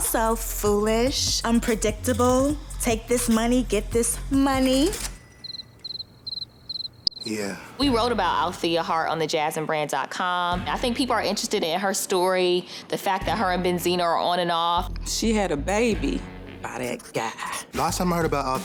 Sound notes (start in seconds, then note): 4.6 cash register rings; 5.4 crickets chirp